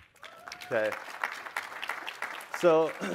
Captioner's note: applause